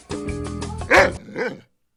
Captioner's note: bouncy music; dog barks